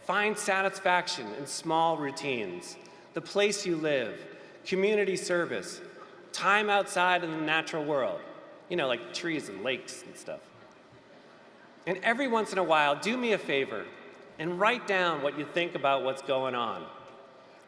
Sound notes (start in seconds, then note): none